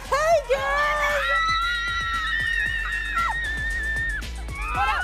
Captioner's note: screaming